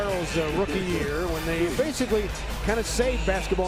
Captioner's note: laughing